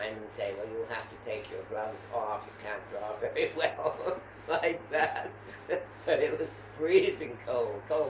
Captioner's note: laughter